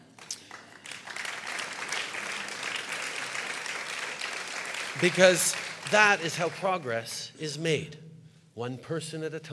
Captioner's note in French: Rires et applaudissements